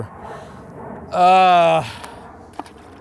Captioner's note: groans